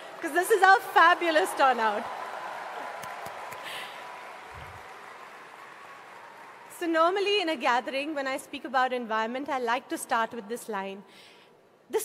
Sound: cheering/Applause

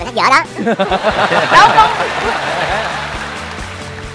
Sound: laughing

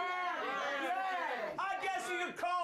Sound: audience shouts answers

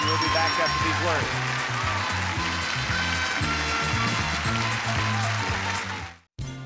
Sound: upbeat music; audience clapping

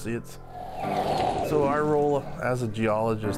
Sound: whooshing

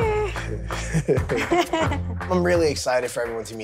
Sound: giggles

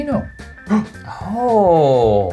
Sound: gasps

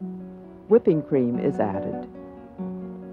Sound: voiceover

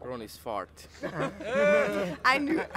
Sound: laughter

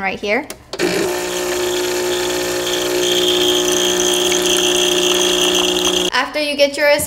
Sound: loud, continuous buzzing

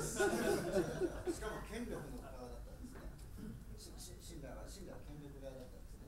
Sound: speaking in foreign language

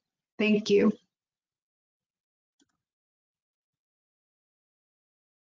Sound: silence

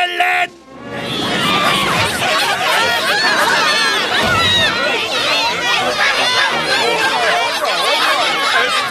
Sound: <i> anchovies clamoring</i>

